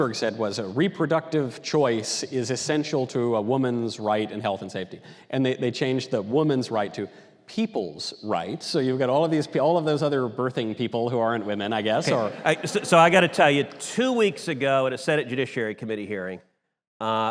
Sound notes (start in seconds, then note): 12.0 audience laughter